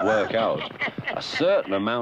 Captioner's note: chuckling